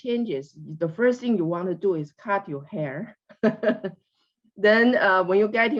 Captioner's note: laughs